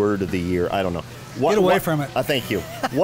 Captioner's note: laughs